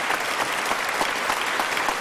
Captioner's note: applause